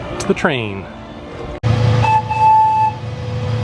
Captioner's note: whistle blows